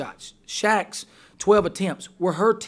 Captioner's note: voiceover